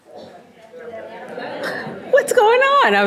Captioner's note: audience murmuring